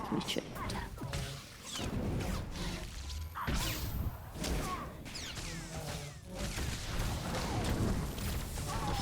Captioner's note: gunshots